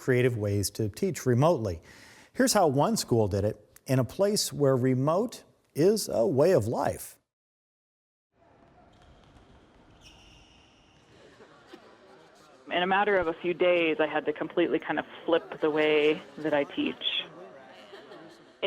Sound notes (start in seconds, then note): 8.9 shoes squeaking